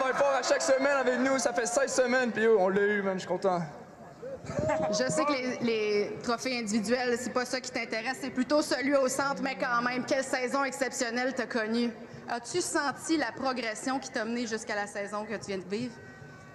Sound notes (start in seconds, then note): 4.1 speaking in french